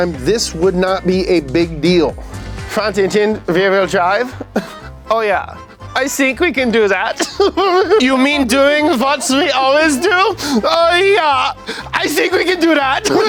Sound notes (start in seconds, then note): 7.5 laughs